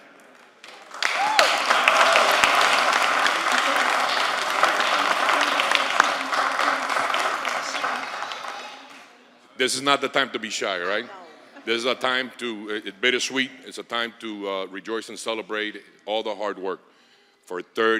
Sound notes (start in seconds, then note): 6.4 applause